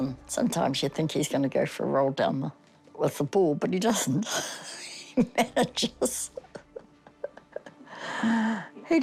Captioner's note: laughs